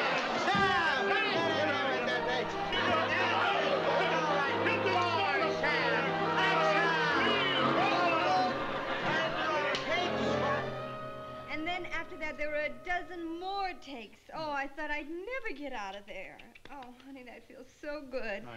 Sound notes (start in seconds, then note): 3.0 shouting